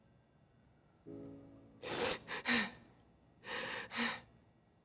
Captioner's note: panting